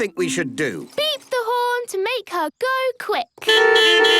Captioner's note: beeping